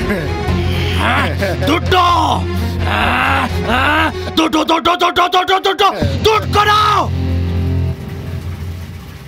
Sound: screaming

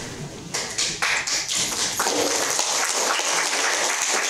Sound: applause

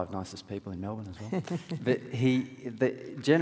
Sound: laughs

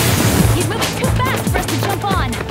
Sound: both panting

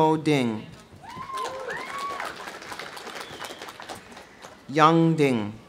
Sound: audience cheering; audience applauding

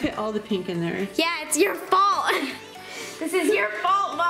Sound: laughing

